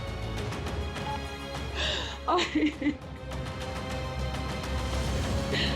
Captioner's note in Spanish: Sollozos